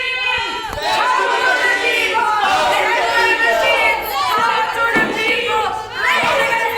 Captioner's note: crowd